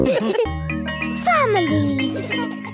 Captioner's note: school bell ringing